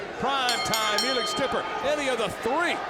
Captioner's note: bell rings